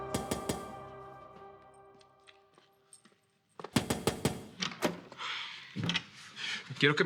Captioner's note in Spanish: Toques en la puerta